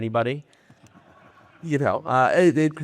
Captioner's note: audience laughing